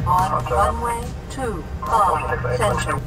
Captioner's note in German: Computerstimme